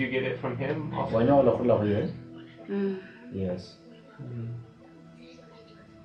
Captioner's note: speaking in foreign language